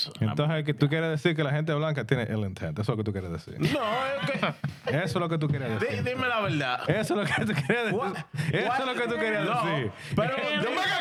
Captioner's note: speaking In Foreign Language